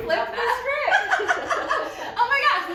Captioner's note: laughter